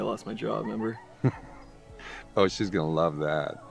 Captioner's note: Chuck chuckles